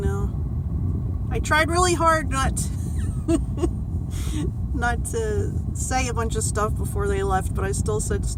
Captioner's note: laughs